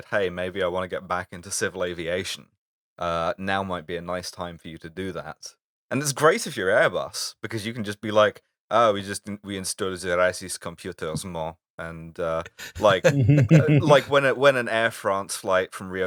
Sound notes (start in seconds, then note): 8.9 French accent; 12.6 laughter